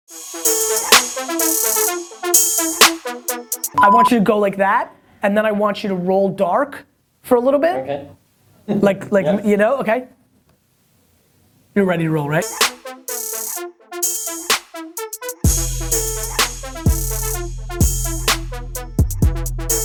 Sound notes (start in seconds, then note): 0.3 hip hop beat; 3.7 beep; 12.4 hip hop beat